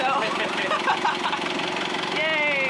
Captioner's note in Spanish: riendo